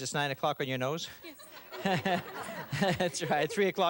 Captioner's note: laughter